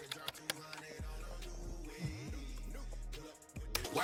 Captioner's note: typing